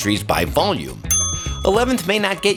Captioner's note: bell rings